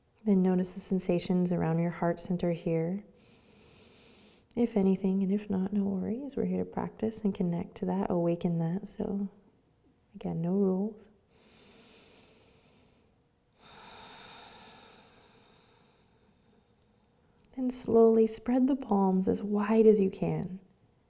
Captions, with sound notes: Then notice the sensations around your heart center here. If anything, and if not, no worries. We're here to practice and connect to that, awaken that, so, again, no rules. (breathes deeply) And slowly spread the palms as wide as you can.